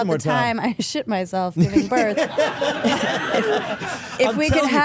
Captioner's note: everyone laughing